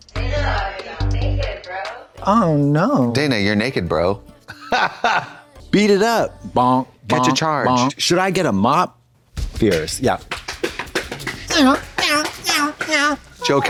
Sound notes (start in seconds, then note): 4.5 Trixie har-hars; 9.4 rapid clapping; 11.8 Katya meows